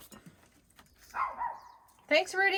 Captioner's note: dog barks